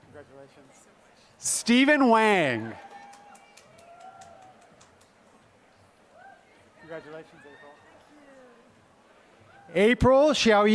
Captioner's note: applause; applause